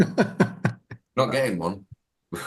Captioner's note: laughing